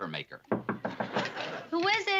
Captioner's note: knocking